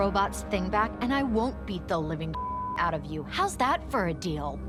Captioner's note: beep